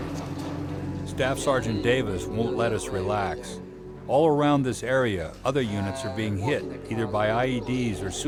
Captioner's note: voiceover